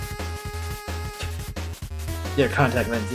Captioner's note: scoffs